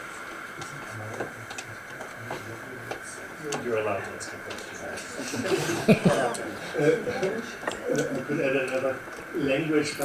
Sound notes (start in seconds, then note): 4.8 audience chuckling